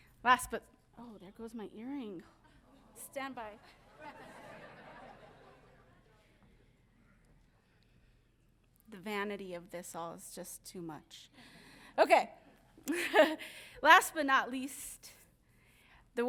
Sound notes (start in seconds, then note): 3.6 audience laughing; 12.8 chuckles